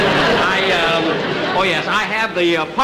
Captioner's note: audience Laughing